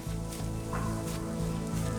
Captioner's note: straw rustling